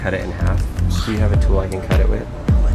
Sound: laughs

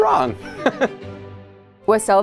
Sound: laughs nervously

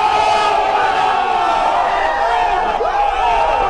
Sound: shouting

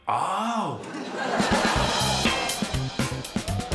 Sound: laughter

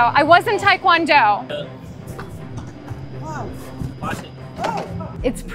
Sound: kicks

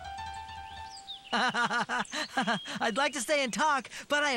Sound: laughing

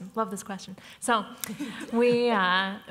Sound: chuckles

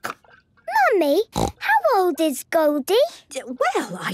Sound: snorting

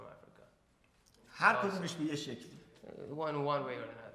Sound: speaking in farsi

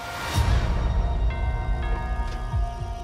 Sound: doorbell rings

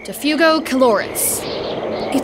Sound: wind blowing

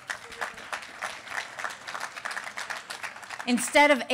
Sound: applause

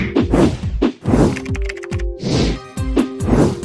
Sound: graphics whooshing; keyboard clacking; graphics whooshing

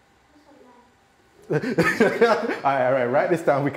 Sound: laughing

